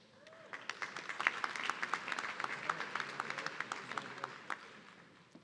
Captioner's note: audience clapping